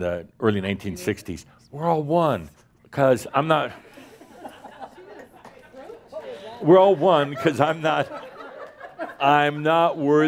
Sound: laughter at his “skirt”

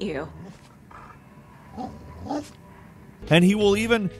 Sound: dog whimpering

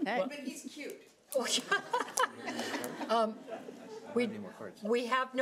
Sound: audience laughing

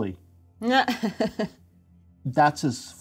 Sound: co-host laughing

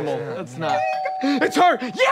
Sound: doorbell ringing

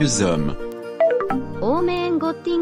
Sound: FX - Fail

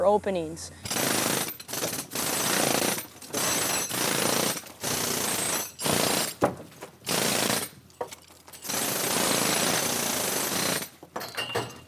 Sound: mason tools drilling brick

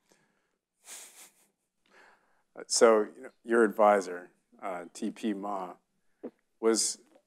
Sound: chuckles

